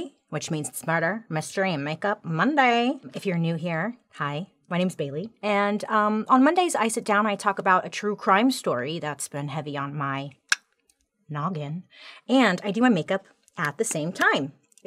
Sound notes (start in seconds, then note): 10.7 clicks tongue